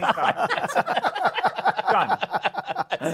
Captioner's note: laughter